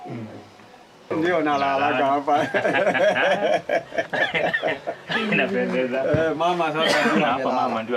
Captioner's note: laughter